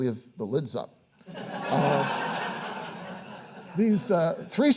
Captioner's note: audience laughing